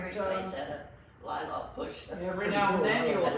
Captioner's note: laughs